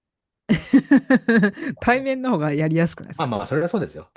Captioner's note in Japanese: 笑い